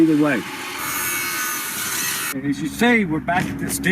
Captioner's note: drill whirring